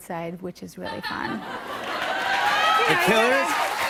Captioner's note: laughter and applause